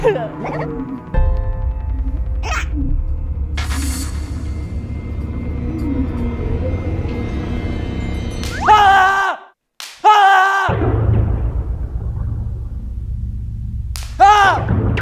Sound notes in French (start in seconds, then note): 8.3 Accueillir par des claquements de bang; 9.9 Crier à haute voix; 11.2 Nerveux; 13.5 Attention aux claquements de bang; 13.8 Surpris par des pops bruyants